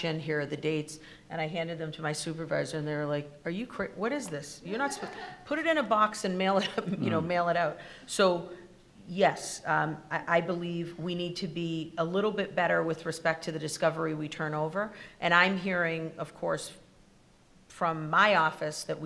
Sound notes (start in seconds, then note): 4.8 attendees laughing